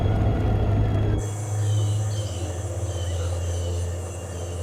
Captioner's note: birds squawking